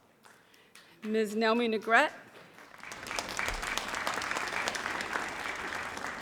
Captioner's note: audience applauds